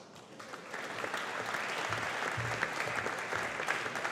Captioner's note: audience applauding